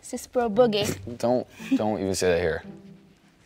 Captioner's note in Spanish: Risas